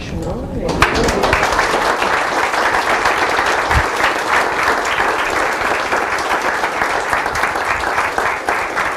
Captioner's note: applause